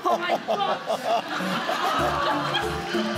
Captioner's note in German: Publikum lacht